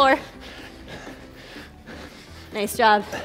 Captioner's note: breathes heavily